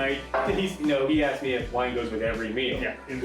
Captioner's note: laughing